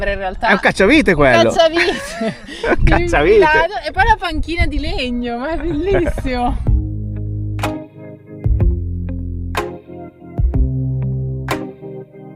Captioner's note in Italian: risate